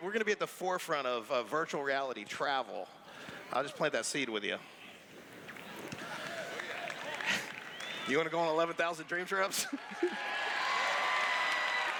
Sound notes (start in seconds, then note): 5.9 clapping; 9.6 laughs; 11.7 cheers